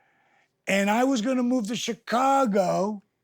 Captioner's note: none